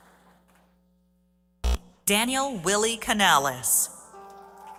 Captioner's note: applause